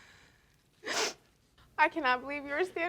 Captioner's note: sniffles